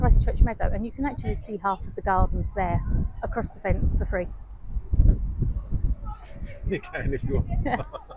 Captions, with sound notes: church meadow and you can actually see half of the gardens there across the fence for free [Laughing] You can if you want